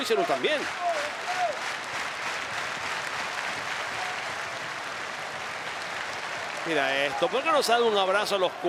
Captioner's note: applause